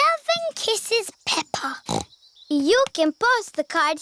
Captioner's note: snorts